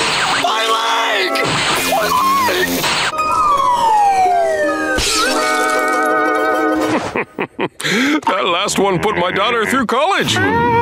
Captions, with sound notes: My leg! My leg! [shattering] [laughing] That last one put my daughter through college.